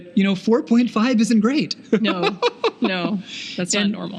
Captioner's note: laughing